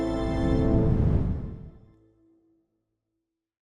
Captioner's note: screen whooshing